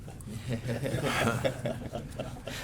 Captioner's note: laughter